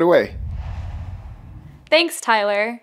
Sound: logo swooshes

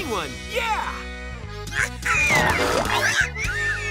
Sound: squeaking

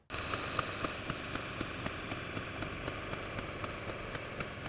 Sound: metal cutter machine running

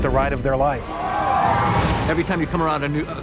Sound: roller coaster riders scream

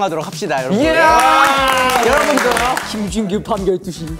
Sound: applause

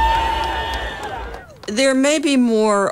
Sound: cheering

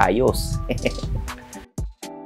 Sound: laughs

